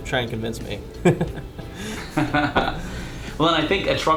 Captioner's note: laughing